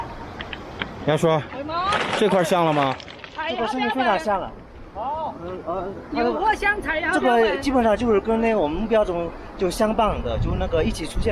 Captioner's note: speaking Chinese